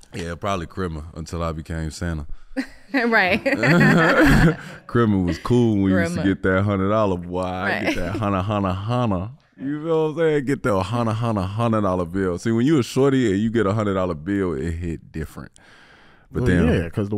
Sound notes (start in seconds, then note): 3.2 laughing